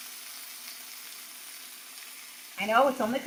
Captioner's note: chicken sizzling